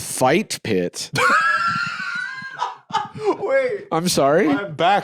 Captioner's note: laughs